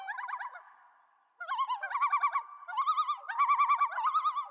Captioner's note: ducks chirping